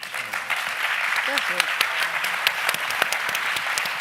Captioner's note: applauding